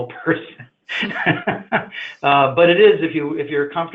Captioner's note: laughs